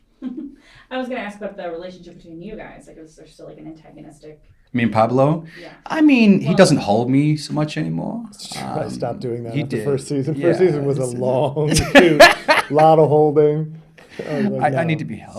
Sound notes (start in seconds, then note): 0.2 interviewer giggles; 11.6 Rick laughing